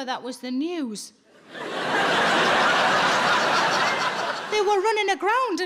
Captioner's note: audience laughing